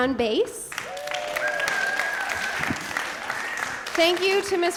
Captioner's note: applause